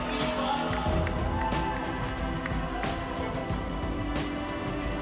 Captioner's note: cheering and applause